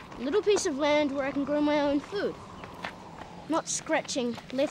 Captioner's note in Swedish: none